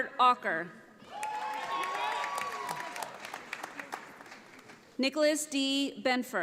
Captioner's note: audience applauding